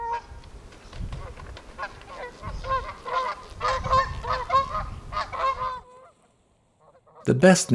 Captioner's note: geese honking